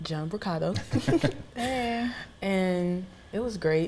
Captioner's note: laughing